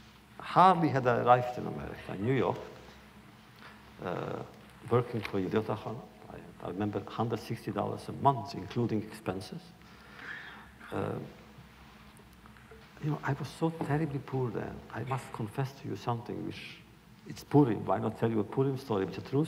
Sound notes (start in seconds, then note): none